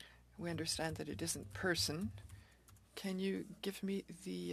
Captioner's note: speaking French